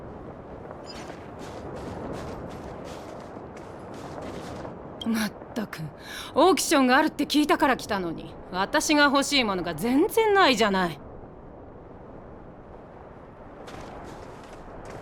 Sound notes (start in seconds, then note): 5.9 sigh